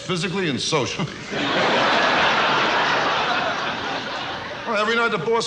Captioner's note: audience laughs